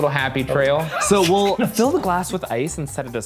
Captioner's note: laughs